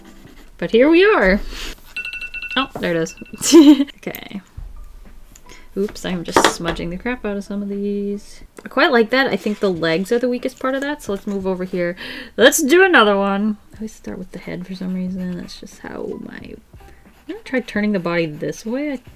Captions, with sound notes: But here we are. [Timer sounds] Oh, there it is. [Laughs] Okay Oops, I'm just smudging the crap out of some of these I quite like that. I think the legs are the weakest part of that. So let's move over here Let's do another one! I always start with the head for some reason. That's just how my - Gonna try turning the body this way.